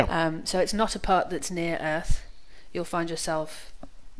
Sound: none

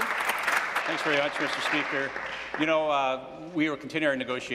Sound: applause

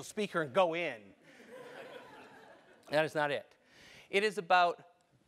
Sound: laugh

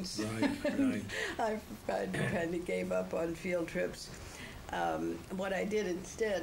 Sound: laughs

